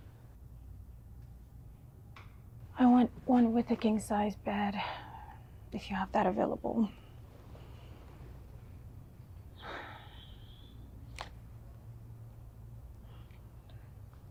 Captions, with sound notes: I want one with a king size bed, if you have that available. (Abby sighing)